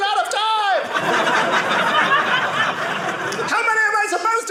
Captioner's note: audience laughing